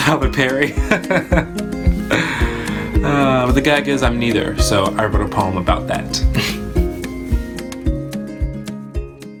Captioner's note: laughs; moody music